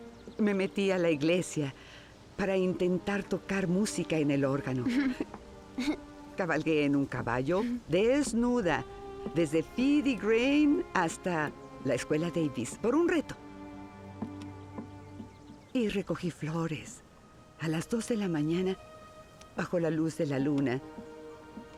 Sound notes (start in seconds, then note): 5.7 laughs